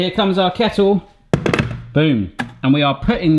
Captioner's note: kettle banging on counter